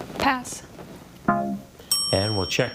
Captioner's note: tone clunks; bell dings